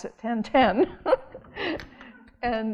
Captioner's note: audience laughing